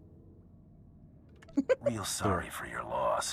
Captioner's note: chuckles